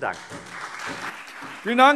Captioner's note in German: Anhaltender Beifall SPD und Freie Demokraten